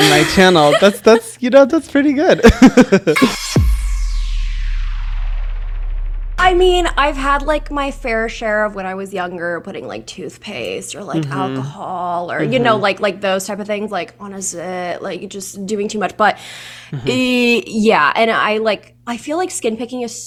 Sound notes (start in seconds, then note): 0.0 laughs; 3.2 intense digital swoosh